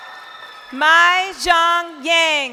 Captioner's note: crowd cheering